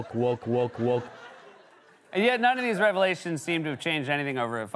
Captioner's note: laughter